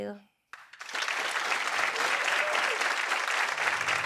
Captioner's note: audience applauds